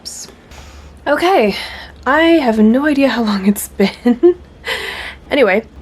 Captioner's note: laughs